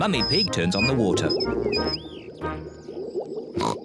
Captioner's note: water glugging; oinks